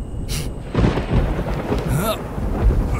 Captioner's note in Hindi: बादल गड़गड़ाते हुए